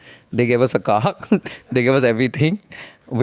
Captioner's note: laughs